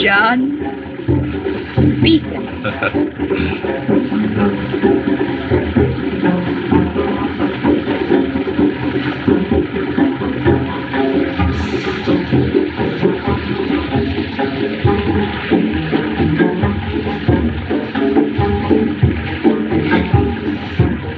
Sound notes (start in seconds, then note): 2.4 chuckles